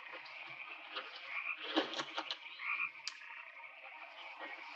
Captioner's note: brush rustling